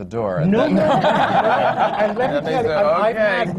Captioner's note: laughter